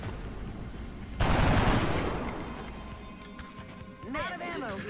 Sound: guns blasting

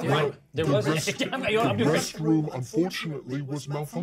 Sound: speaker laughs

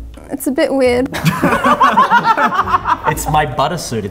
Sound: all laugh

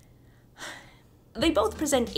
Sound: sigh

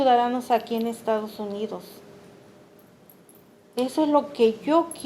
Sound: speaking Spanish

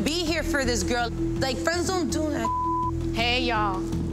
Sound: beep

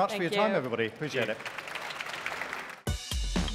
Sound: applause

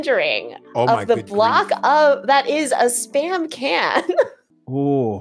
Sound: laughs

